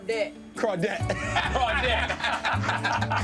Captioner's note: laughter